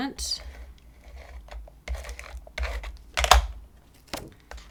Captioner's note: adhesive scrapping